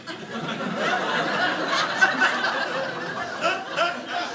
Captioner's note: audience laughing